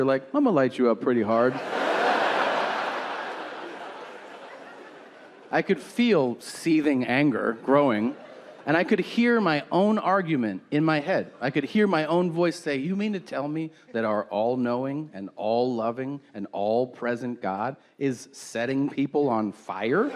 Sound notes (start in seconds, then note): 1.3 audience laughing